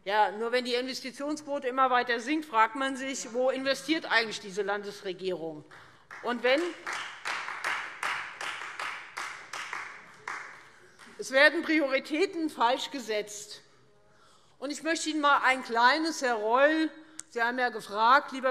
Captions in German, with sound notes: Wenn die Investitionsquote immer weiter sinkt, fragt man sich aber: Worin investiert diese Landesregierung eigentlich? [Beifall Freie Demokraten] Es werden die falschen Prioritäten gesetzt. Herr Reul, ich möchte Ihnen dafür ein kleines Beispiel geben.